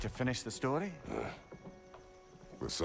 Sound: grunt

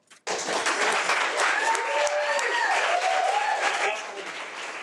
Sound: audience applauding

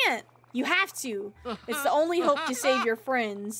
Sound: Ursula Laughs

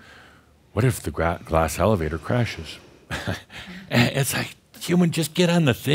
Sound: Adamus chuckles

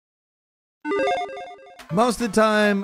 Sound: electronic chiming

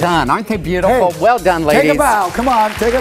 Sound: applause

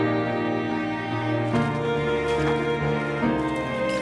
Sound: footsteps in mud

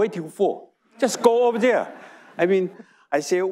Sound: audience laughing

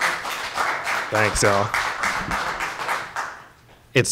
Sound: applause

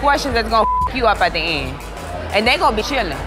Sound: beep

